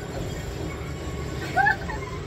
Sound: laughs

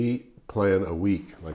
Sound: none

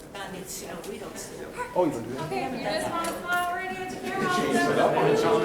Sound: people chattering loudly

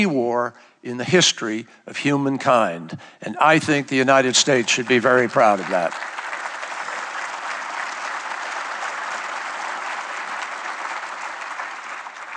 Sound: applause

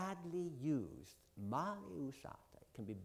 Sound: italian

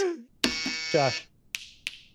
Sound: buzzer

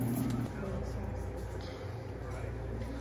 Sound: ambient hissing drowns out Woman

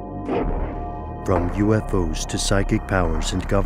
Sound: voiceover

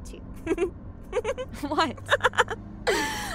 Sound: laughing

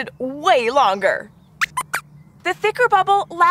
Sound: squeaks squeaks

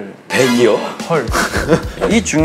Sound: haha

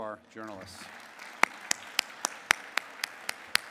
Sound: clapping

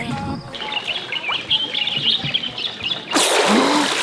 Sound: birds chirping; water splashing

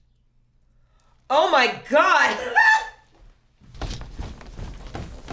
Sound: laughs

